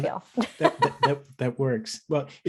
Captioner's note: laughs